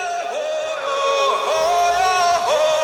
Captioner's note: audience cheering